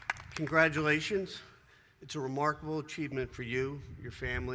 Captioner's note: applause